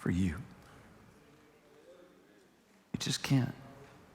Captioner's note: congregation members chatter faintly